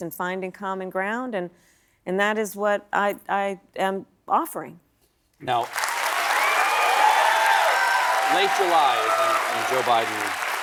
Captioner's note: applause